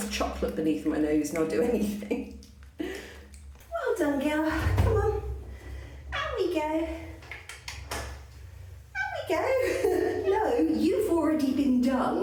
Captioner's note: laughing